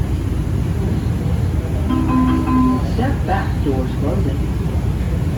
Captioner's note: chime